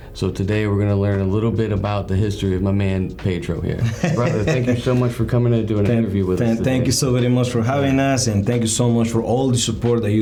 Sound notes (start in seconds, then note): 3.8 chuckles